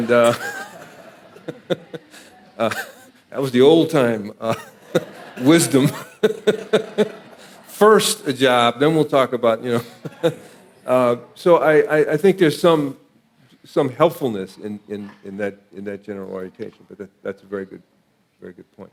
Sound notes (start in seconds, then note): 4.4 audience laughing